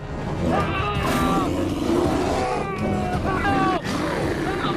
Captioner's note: bear growling; screaming